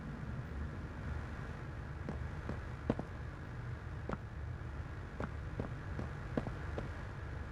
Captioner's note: footsteps